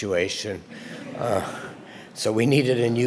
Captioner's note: audience laughter